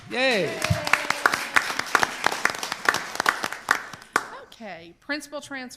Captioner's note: crowd applauds